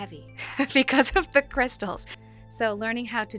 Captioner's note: laughing